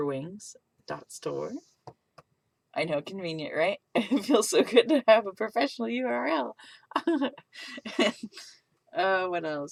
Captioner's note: shyly laughs